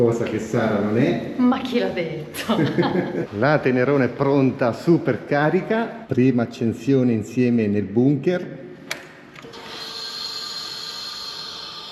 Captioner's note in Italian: risate